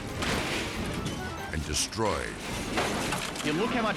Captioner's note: car imploding; car crunching